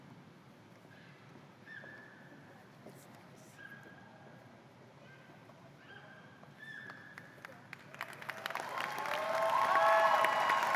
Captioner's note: cheers and applause